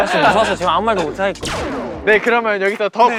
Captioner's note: bang